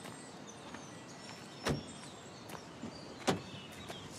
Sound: door slams

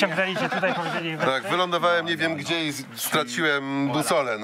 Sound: laugh

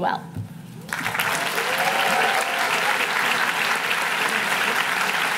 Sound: audience applauding

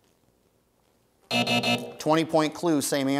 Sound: buzz

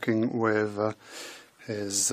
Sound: speaking in French

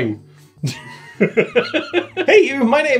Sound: laughing

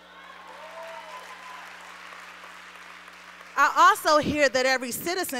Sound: applause

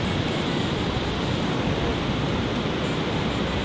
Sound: running

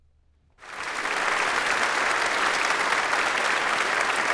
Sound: audience applauds

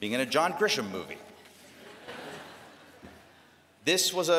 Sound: laughter

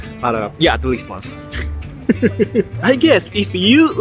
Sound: laughs

